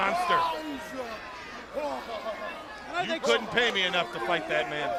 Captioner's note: crowd chatter